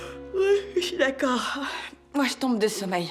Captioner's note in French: none